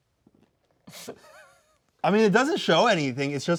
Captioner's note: snickering